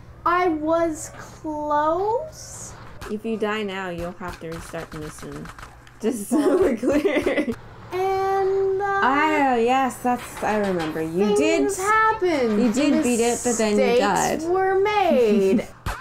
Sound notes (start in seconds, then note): 6.3 laughing